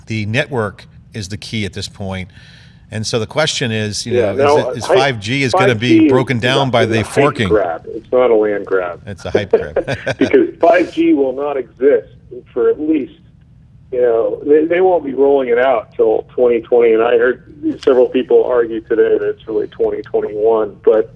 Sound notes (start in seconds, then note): 9.2 laughs